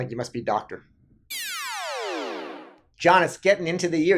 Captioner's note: electronic whooshing